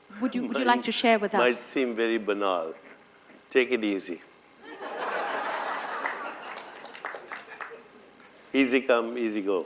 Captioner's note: laughter